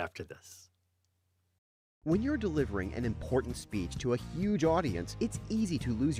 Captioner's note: voiceover